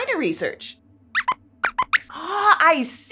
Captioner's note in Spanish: Squeaks chirría